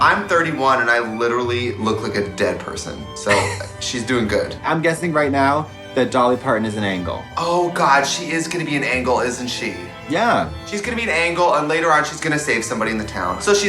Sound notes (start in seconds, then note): 3.3 woman chuckles